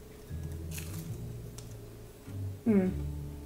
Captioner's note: dosa crunching